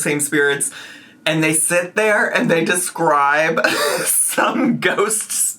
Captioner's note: laughs